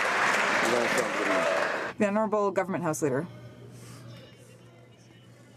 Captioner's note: some Applause